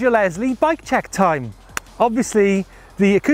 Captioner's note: clap